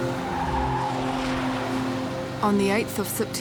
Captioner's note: tyres screech